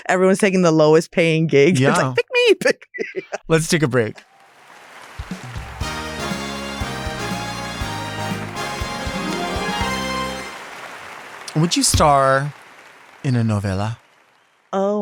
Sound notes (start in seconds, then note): 4.3 audience applauds; 5.4 upbeat music